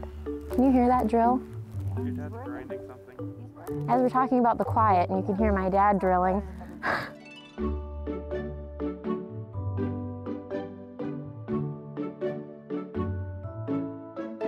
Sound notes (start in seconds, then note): 6.6 chuckles; 7.8 upbeat music